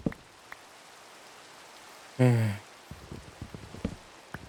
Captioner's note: sigh